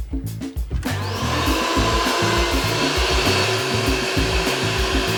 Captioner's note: upbeat music; air blowing